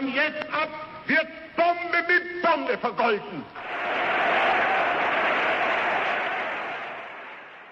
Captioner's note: applause